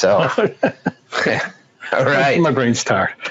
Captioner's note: laughs